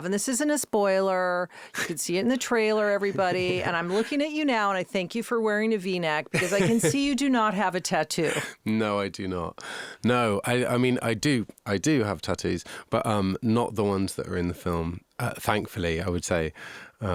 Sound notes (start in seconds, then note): 3.0 Josh laughing